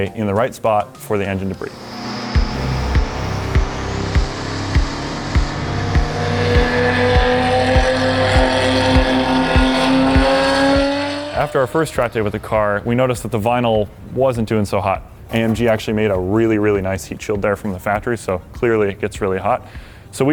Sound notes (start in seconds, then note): 4.5 car revving